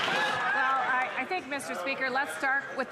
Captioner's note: some Applause